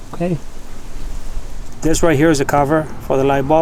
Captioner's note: none